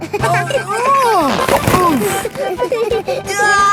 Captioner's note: giggling; grunting; giggling